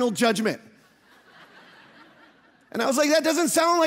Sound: audience laughing

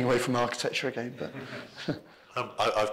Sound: laughs

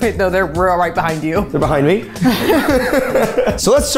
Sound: both laugh

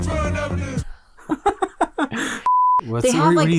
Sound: laughing

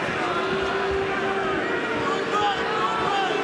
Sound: audience booing

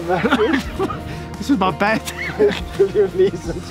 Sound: laughing

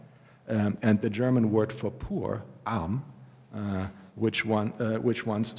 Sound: german

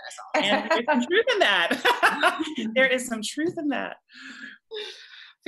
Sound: laughter

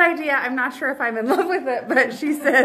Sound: chuckles

